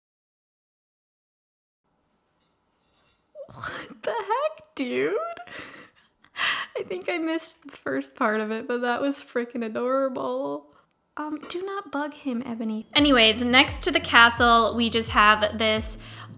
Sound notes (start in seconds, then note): 3.4 laughs